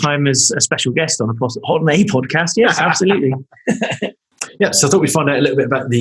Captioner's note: laughing